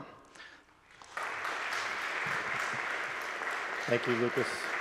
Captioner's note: audience applauds